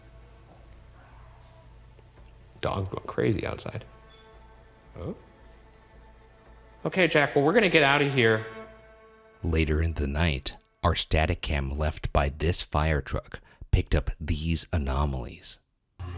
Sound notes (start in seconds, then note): 0.2 eerie music; 0.2 room ambience; 4.0 object clunks